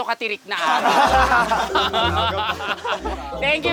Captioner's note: laughter